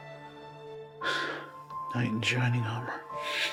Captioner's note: sighs; laughs